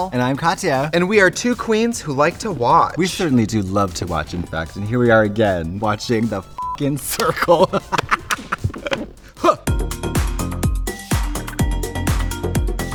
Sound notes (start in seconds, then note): 6.4 beep; 6.8 Katya laughs; 10.1 upbeat music